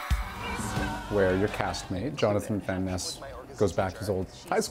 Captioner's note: cheers and Applause